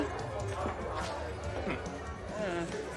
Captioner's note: groans